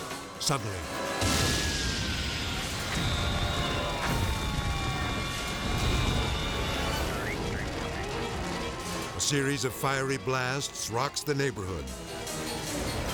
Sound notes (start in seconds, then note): 1.0 siren wailing; 1.2 explosion booming